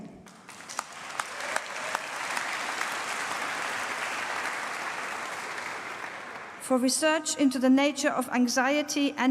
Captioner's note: applause